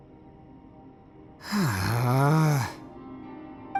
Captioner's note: sigh